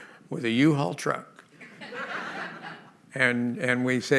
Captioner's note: laughter